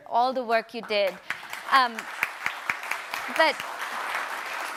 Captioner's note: audience applauds